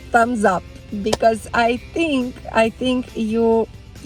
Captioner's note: hands clapping